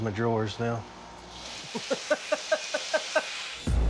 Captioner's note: laughs